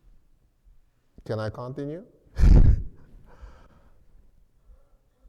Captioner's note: laughs